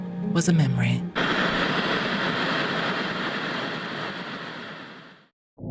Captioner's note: static crackling